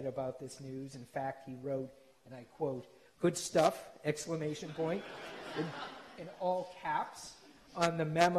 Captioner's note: laughter